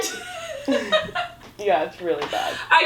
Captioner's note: laughing